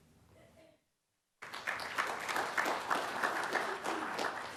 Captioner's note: applause